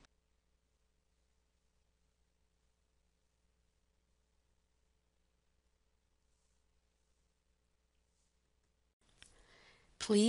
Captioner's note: no audio